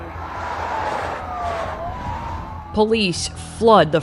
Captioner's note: sirens wailing